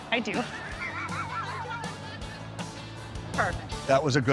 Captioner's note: both laugh